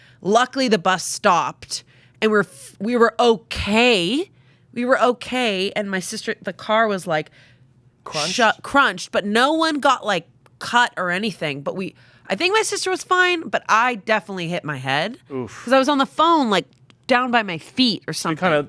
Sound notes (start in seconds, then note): none